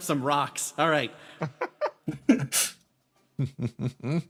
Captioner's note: laughs